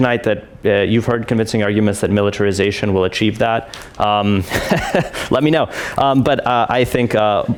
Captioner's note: laughs